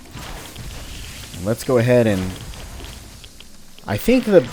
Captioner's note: fwoosh; fwooshing continues